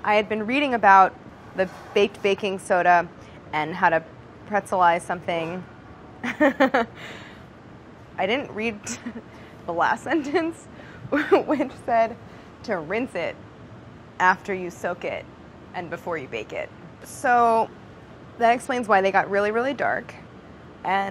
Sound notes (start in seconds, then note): 6.2 laughs